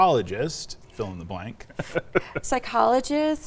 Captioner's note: laughs